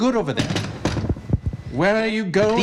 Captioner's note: objects clutter